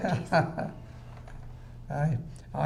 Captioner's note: laughing